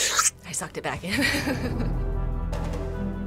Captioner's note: giggles